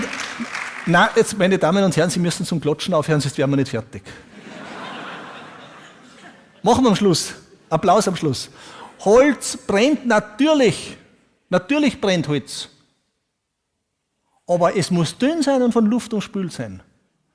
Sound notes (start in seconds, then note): 4.3 audience laughs